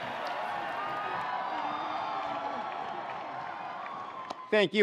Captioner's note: attendees cheering